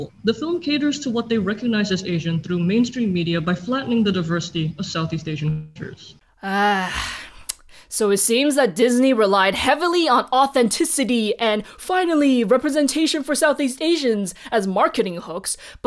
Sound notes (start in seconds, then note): 6.4 sigh; 7.4 tongue click